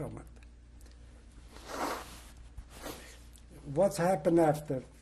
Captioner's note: pauses for 3 seconds